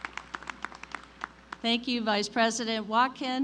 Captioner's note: applause